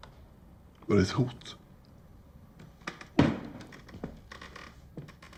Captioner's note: dad speaking foreign language